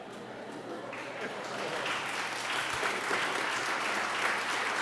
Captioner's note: laughter; applause